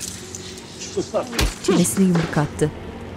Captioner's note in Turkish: Yumruk sesi; Müzik - Gerilim